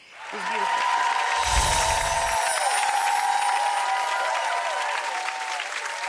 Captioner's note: audience cheering